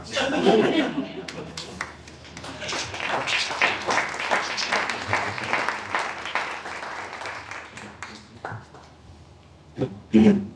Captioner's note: applause